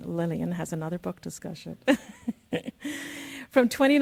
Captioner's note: chuckles